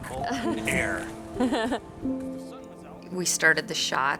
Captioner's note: laughs